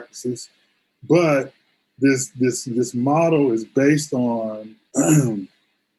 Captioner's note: clears throat